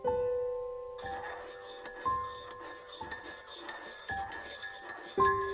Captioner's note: spoon stirring